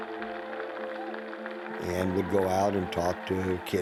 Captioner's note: crowd cheering